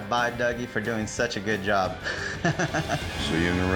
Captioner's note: laughs